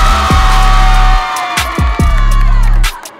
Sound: cheering

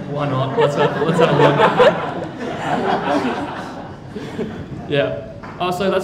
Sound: crowd laughing

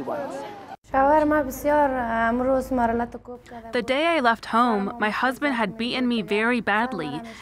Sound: through translator

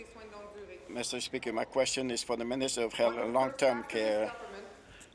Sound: speaking in French

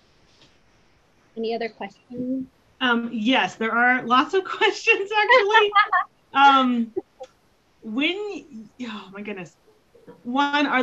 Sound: laughs

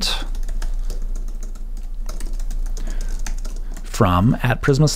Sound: typing

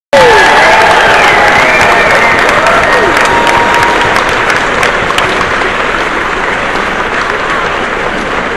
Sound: cheers

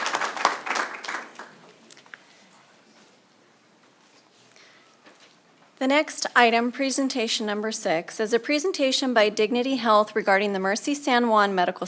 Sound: applause

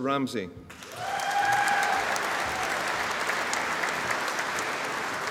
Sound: audience applauding

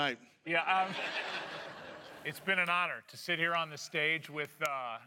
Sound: laughter

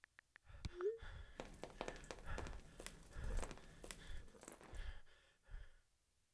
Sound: blood Dripping

